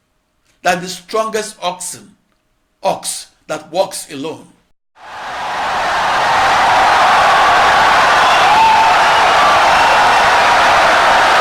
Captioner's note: wild applause and cheering for 17 seconds